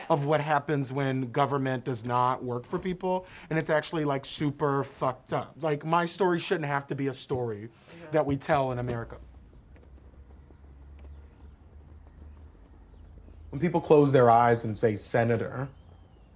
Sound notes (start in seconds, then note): 8.0 flags flapping; 9.4 birds chirping